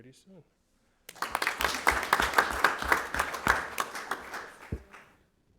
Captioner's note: audience applauding